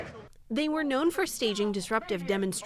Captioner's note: voice-over